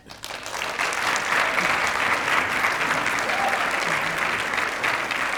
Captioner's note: applause